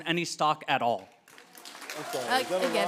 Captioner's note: applause